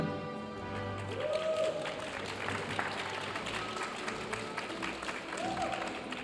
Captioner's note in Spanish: aplausos de la audiencia